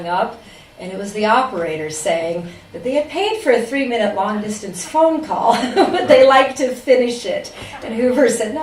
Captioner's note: laugher